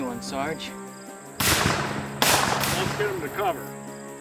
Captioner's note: gunshots booming